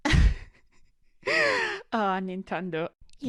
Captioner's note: snickers